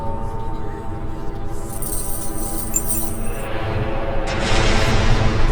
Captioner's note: chains rattling